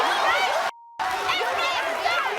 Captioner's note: cheering